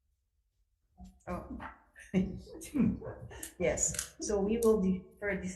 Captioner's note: laughing